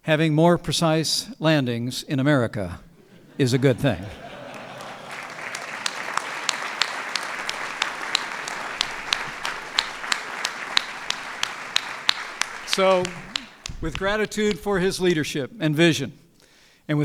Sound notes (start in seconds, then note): 3.9 applause